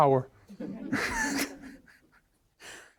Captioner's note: all laughing